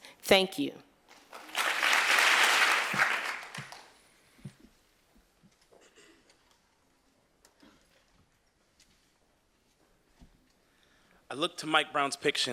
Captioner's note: applause